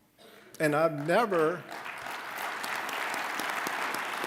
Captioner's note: applause